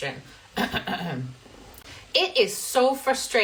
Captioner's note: clears throat